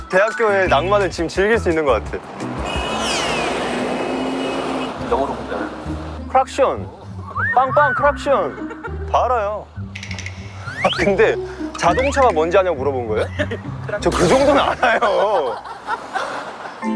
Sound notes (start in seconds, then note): 2.2 vrooom vrooom